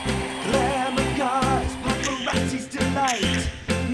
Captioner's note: pop song; camera clicks; pop song